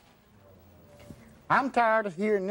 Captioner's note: audience murmuring